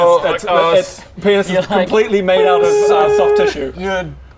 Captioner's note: beeeeeeeeeeeep